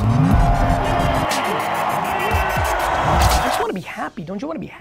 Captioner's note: crowd cheering